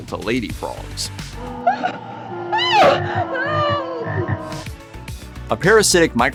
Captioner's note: ribbiting, screaming